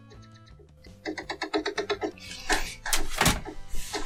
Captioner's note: tapping